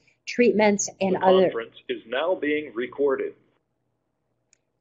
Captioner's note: voiceover